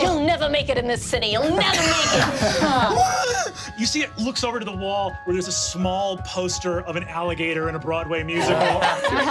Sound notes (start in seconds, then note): 3.0 screams